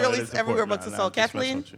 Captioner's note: speaks faintly